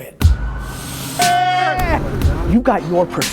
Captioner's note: upbeat music; yelling